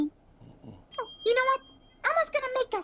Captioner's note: chimes